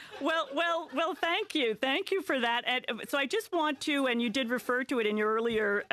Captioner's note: laughter